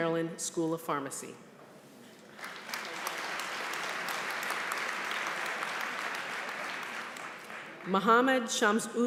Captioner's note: applause